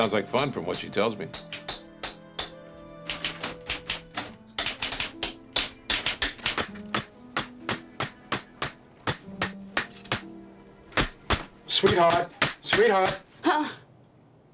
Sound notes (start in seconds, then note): 3.0 typing; 6.4 hammering